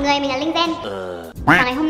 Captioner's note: ughhhh